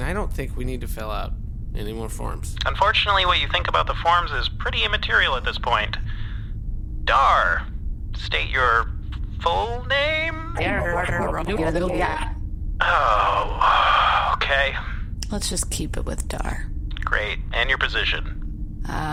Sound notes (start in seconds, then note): 9.3 strange, overlapping alien noises; 14.7 sigh